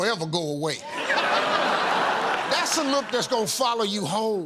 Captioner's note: laughter